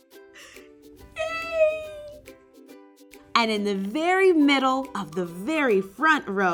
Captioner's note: laugh